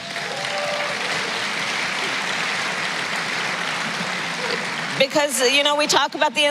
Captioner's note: applause